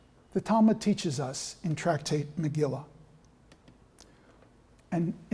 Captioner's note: non-english speech